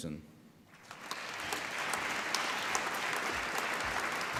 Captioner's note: applause